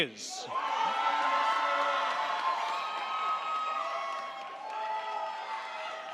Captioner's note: crowd cheering; crowd clapping